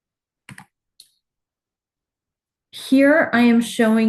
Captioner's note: clicking